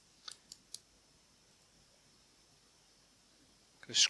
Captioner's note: silence